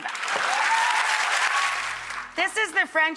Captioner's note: audience cheers